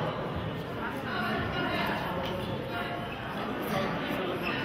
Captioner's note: audience chattering